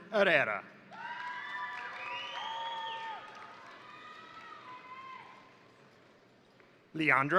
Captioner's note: crowd cheering; crowd applauding